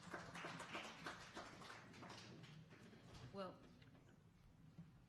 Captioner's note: sporadic applause